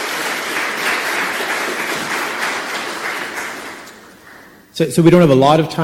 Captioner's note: audience clapping